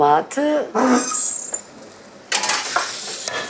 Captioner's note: squeaking